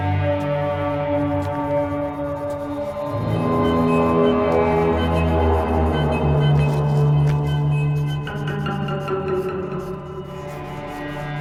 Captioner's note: humming